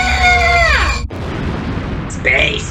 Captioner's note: D.W. screams; destructo ray blasts; explosion